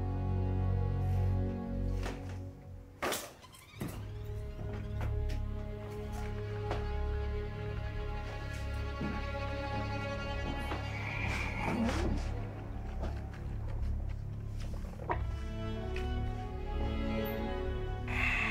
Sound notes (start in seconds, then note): 11.2 Richard exhales